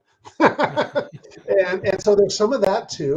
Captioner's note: chuckles